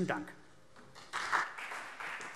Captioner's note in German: Beifall BÜNDNIS 90/DIE GRÜNEN und CDU